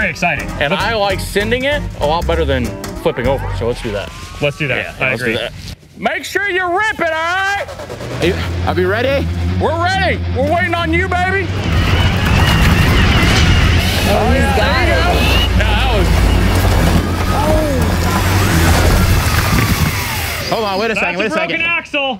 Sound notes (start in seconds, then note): 16.0 engine buzzing and whirring